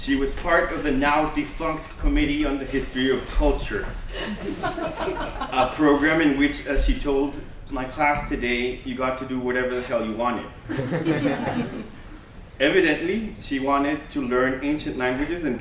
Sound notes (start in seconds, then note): 4.1 laughter; 10.6 laughter